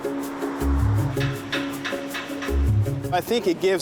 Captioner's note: whirligigs clattering